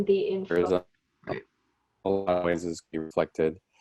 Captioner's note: video interference